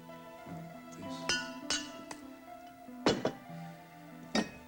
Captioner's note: mumbles